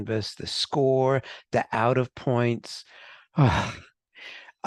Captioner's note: sighs